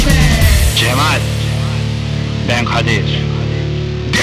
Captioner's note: phone effect